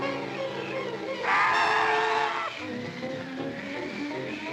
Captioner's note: bird squawks; dramatic music continues; wind whistling